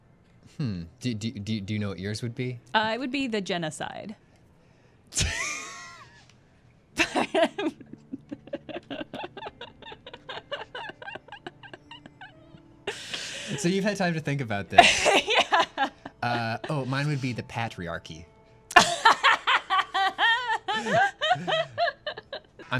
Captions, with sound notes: -Hmm. Do you know what yours would be? -It would be 'the Jenna-cide.' [laughter] -So you've had time to think about this. -[laughing] Yeah! -Oh, mine would be 'the Pat-riarchy.' [laughter]